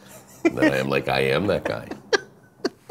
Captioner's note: laughing